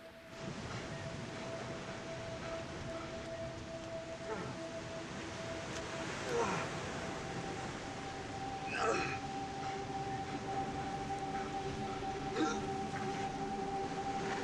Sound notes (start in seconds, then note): 0.3 soft intriguing music; 6.2 Bobby groaning